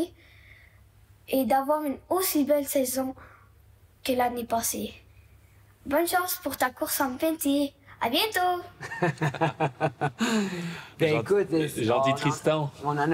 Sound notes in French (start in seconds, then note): 8.8 rires